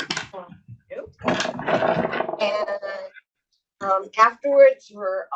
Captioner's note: objects clattering drowns out speaker